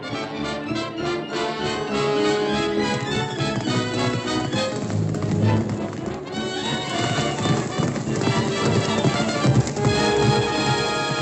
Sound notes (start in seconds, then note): 0.8 action music; 7.3 horses galloping